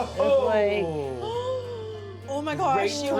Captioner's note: gasps